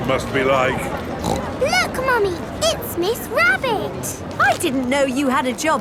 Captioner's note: snorts